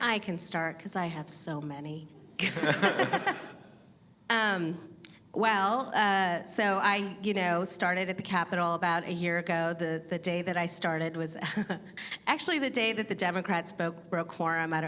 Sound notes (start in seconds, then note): 2.4 laughs; 2.4 audience laughing; 11.7 laughs